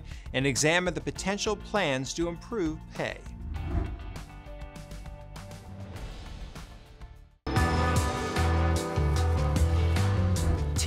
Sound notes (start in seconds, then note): 3.4 air whooshes; 7.4 pensive music